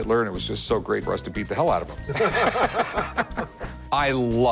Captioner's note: laughter